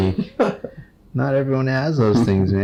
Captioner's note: patient laughs